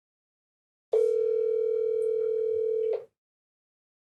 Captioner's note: phone ringing